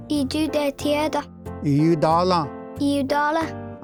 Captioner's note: repeats fourth word in Cherokee